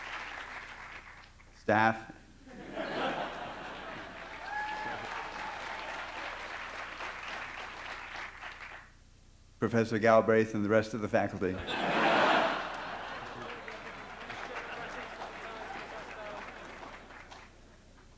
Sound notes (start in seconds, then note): 2.4 laughter; 2.8 applause; 11.5 laughter